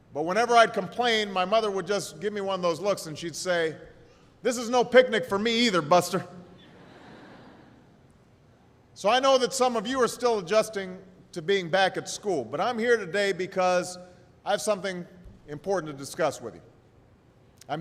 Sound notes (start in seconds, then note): 6.6 laughter